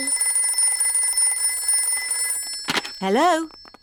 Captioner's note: phone rings